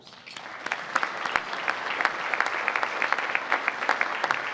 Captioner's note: audience applauding